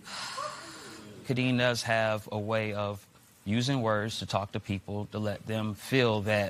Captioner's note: exhales sharply